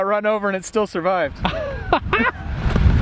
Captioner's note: laughing